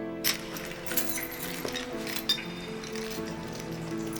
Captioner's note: emotional music; chains rattling